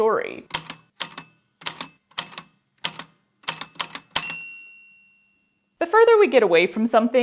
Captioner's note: A typewriter clicks away, then dings